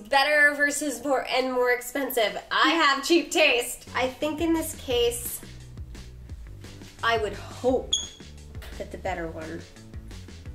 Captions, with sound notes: better versus more and more expensive. I have cheap taste. I think in this case, I would hope (squeak) that the better one